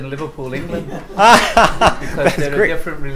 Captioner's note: laughs